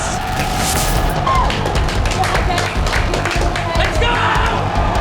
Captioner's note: cheering, applauding